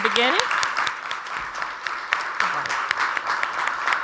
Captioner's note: audience applauds